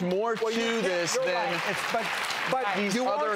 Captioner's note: clapping